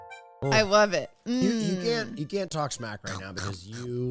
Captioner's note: exaggerated chomping sounds